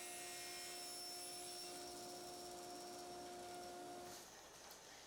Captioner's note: saw whirring